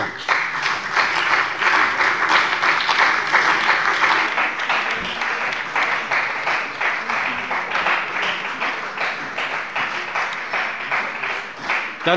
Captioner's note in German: Beifall bei der CDU und dem BÜNDNIS 90/DIE GRÜNEN